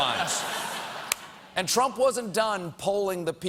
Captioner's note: laughter